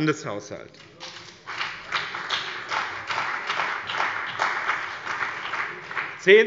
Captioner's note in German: Beifall bei dem BÜNDNIS 90/ DIE GRÜNEN und der CDU